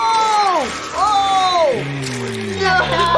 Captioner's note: flesh and bones squelching